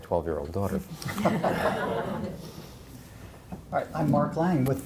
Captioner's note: laughing